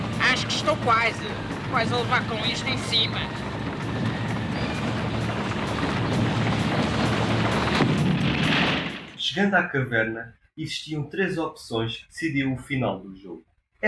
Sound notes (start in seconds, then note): 5.2 avalanche sound